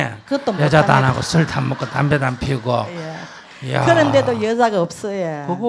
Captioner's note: audience Laughter